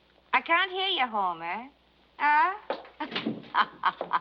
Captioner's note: laughs